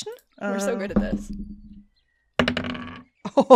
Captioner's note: more dice thunks, thwacks, and thonks